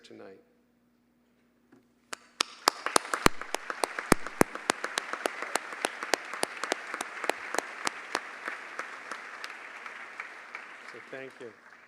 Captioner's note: applause